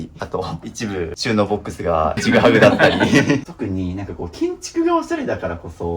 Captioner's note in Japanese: 笑い